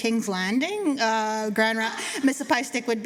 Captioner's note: laughter